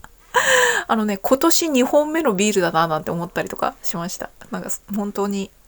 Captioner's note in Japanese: 息をのむ音; 笑い